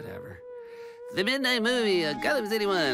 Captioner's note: defeated creepy voice